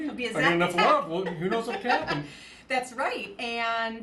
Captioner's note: laughs